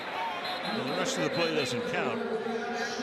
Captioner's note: whistle